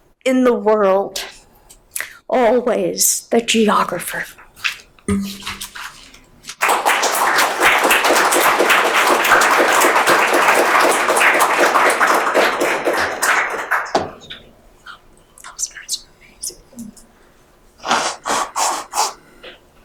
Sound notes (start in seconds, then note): 6.5 audience applauding; 15.2 women murmuring lightly